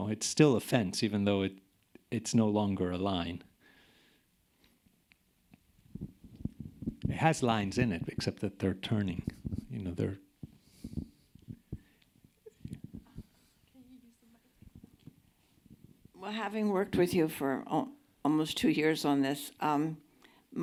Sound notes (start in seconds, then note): 13.5 murmuring